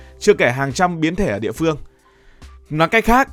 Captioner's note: speaking